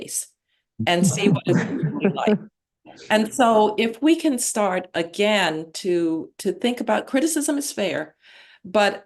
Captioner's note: laughter